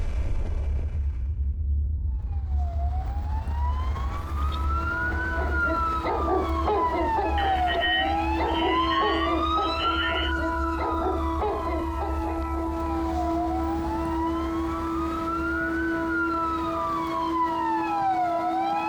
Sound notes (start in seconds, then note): 0.0 rumbling; 3.0 emergency sirens blaring, dogs barking; 13.8 emergency sirens continue